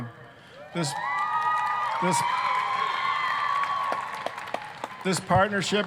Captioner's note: applause, cheering